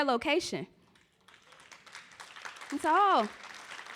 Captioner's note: clapping